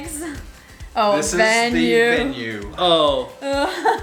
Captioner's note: male Voice